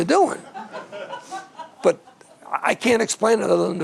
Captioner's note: all laughing